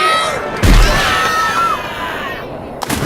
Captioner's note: screaming